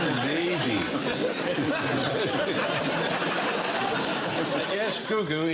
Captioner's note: laughter